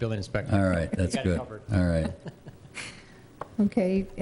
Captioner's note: laughs